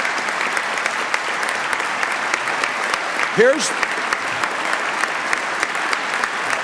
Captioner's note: applause